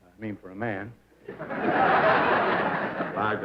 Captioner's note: laughter